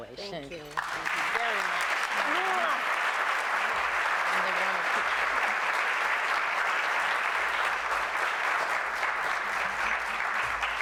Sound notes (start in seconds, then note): 5.4 applause